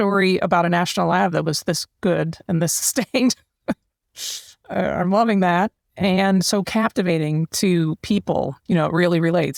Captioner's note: laugh